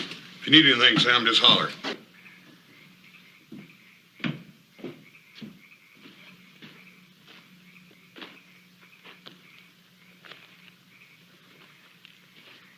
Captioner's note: door closes